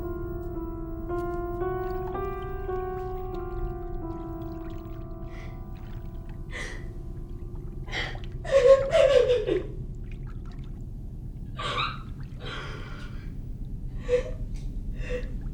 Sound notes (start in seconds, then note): 1.5 water moving slowly; 7.8 Ira sobs and cries